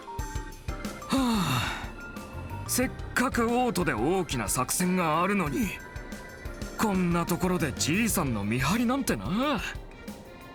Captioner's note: sigh